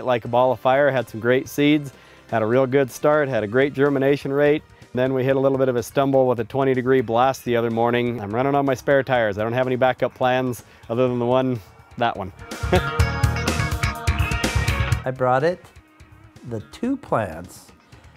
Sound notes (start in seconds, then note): 12.6 laughter